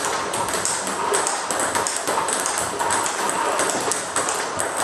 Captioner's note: ball ping pong hitting continues